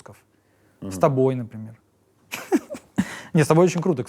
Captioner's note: laughs